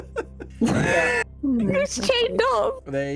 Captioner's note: laughing